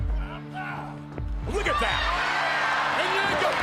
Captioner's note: crowd cheers